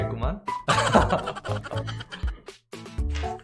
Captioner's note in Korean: 웃음소리